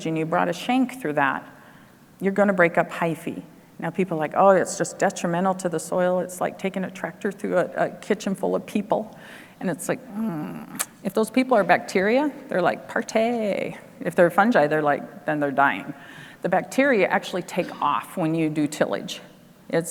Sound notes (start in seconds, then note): 10.1 grunts